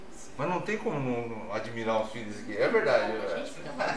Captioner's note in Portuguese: risos